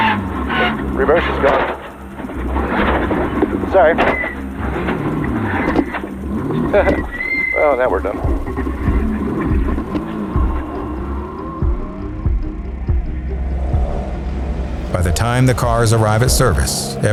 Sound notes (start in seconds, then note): 0.1 car engine revving; 0.1 gearbox grinding; 6.2 laughs